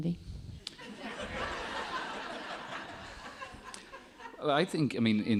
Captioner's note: audience laughing